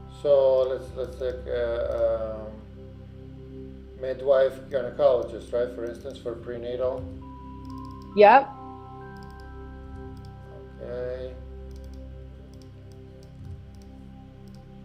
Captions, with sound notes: So let's take midwife, gynecologist, right? For instance, for prenatal. - Yep. (mouse clicking) - Okay. (mouse clicking)